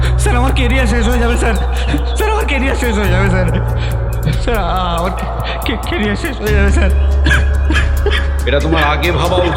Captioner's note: sobbing